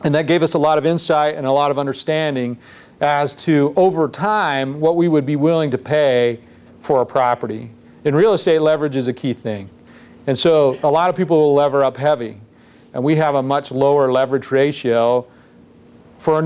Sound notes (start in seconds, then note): none